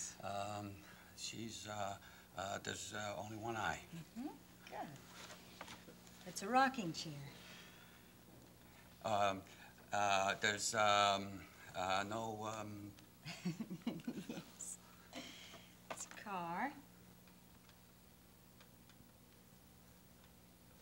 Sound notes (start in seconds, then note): 13.2 Rollins laughs